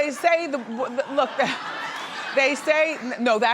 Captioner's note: audience laughing